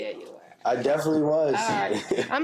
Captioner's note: laughs